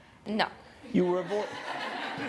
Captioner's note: laughter